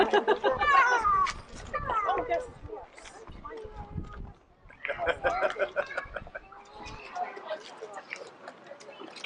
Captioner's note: chuckling, sounds of approval